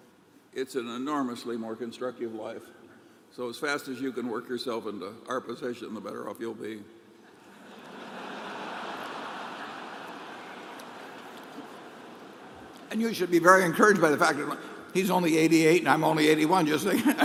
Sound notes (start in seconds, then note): 10.8 laughter